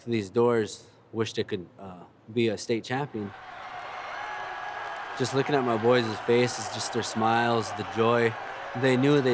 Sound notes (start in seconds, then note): 3.1 cheering